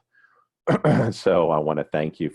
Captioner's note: clears throat